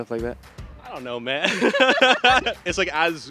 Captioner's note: both laugh